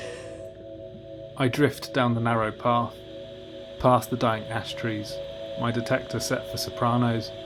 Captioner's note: electronic music fades in; static hiss